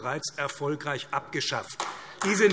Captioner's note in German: Beifall AfD